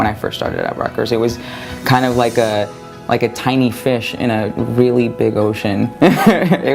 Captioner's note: laughter